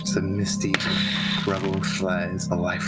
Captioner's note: tshhhhhhh